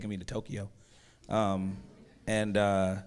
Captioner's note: audience murmurs